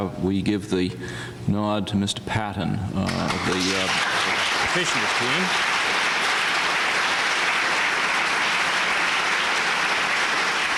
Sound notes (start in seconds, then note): 3.1 applause